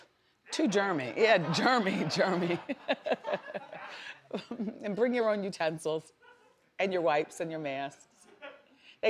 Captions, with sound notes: (audience laughs) Too germy. Yeah germy, germy. (Wendy laughs) And bring your own utensils, and your wipes and your masks.